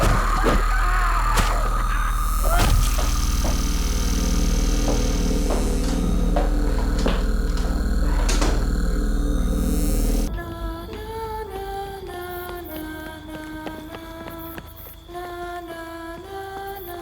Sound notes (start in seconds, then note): 0.0 Abby shrieks; 0.0 Jonathan screams; 8.4 door clicks; 10.2 peaceful music; 10.5 singer vocalizes; 14.1 rapid footsteps